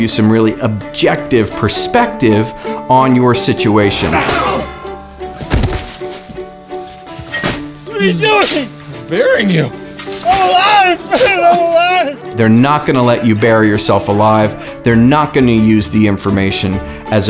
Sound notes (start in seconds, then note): 3.8 shovel clangs; 5.5 thumps; 7.1 dirt thumps